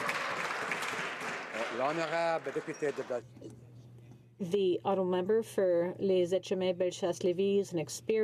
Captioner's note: some Applause